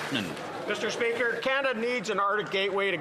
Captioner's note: some Applause